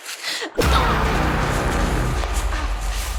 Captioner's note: Miranda screams